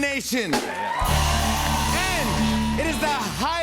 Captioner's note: cheers and applause